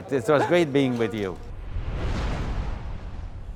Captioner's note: laughing